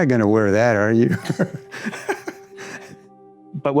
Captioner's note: soft laughter